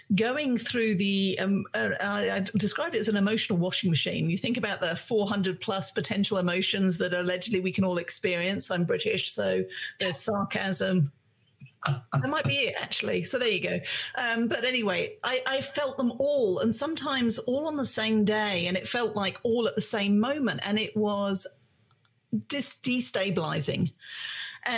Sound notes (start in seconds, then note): 12.0 laughs